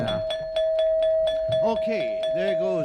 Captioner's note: bell rings